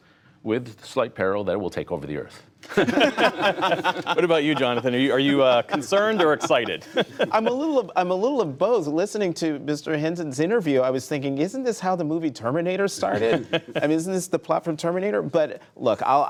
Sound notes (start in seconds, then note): 7.4 laughter